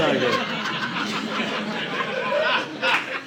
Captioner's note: audience laughing